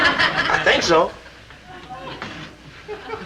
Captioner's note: audience chuckling